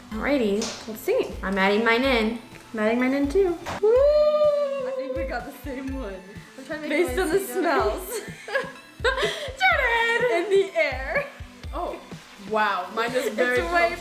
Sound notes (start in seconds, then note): 8.0 both laugh